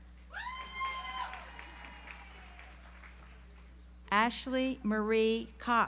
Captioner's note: audience applauds